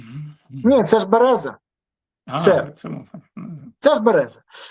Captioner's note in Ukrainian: прочищення горла